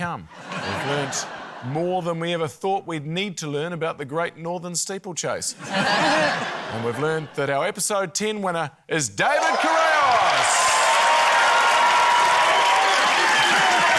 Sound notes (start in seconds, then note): 5.6 laughter; 12.1 cheering, applause